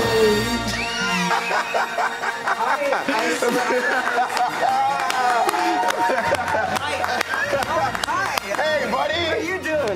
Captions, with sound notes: [laughter] Hi. Hey, buddy. How you doing?